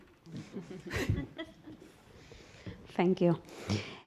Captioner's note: audience laughs